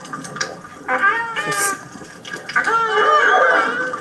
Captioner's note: dolphins squeaking